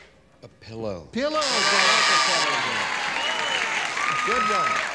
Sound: buzzer

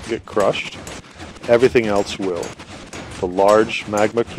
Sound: more sounds of mobs being crushed

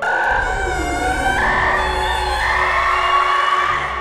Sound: wolves howling; banshee screaming

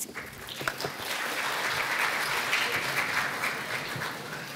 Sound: applause

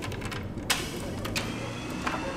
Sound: door opens

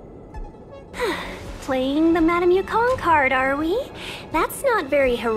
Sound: sigh

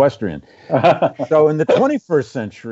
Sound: laughs

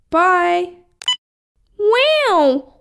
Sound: click!

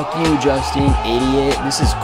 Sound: cheering Sound effect

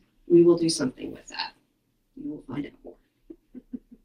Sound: audio cuts out 13.45

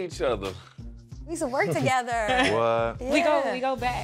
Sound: chuckles

